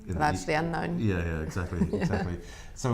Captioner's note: laughs